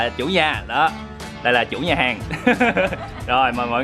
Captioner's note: laugh